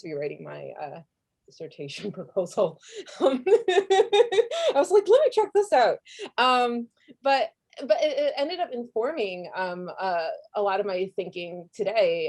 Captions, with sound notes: be writing my dissertation proposal. (laughing) I was like, let me check this out. But it ended up informing a lot of my thinking today